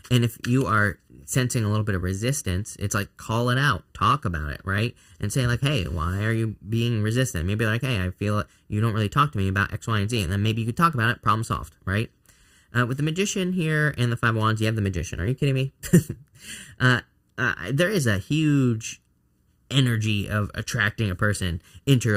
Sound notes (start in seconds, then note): 15.8 chuckles